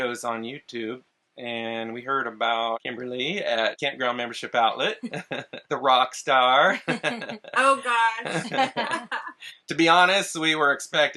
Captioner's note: laugh